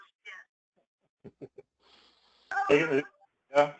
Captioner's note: laugh